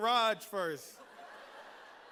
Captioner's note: laughter